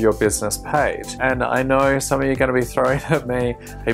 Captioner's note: chuckles